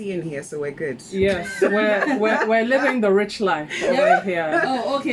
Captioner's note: laughs